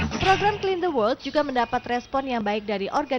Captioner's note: non-english speech